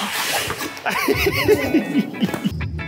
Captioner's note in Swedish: skratt